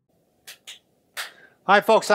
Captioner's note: clapping